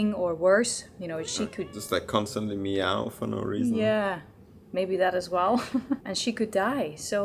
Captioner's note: laughter